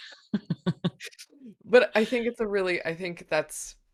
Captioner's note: laughing